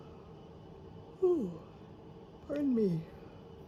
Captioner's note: yawns